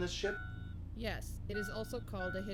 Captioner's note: computer voice